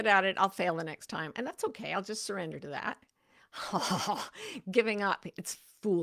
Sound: laughs

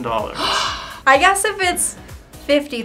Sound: gasps

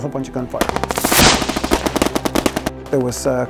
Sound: gunfire

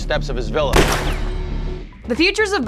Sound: gunshot

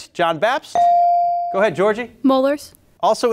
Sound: beep

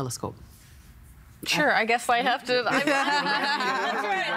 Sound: all laughing

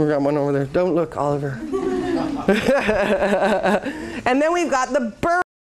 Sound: laughs

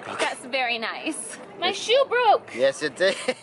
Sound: laughing

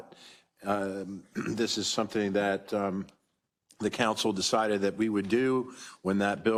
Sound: cough

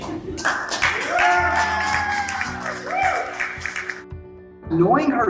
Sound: people clap and cheer

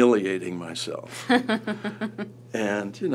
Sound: laughs

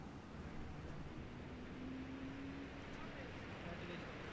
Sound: vehicle approaching

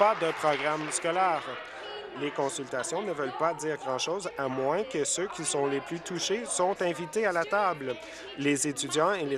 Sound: applause

